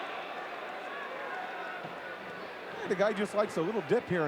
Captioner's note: audience cheering